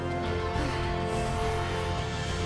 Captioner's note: panting